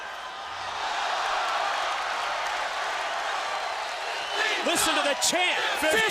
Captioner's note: crowd cheering